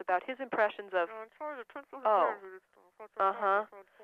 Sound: woman mumbling

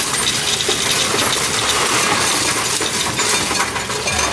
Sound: coins rattling

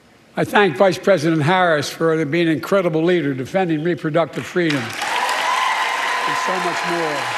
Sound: applause

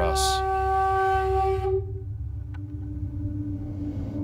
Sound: horn

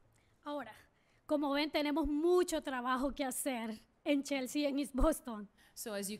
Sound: speaking spanish

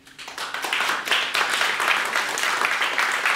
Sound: applause

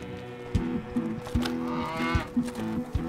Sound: bull grunts

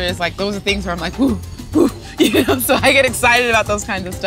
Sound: laughs

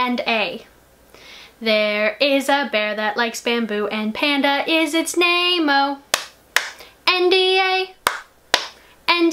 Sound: clap clap

